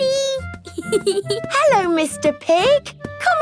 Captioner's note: snorts; giggling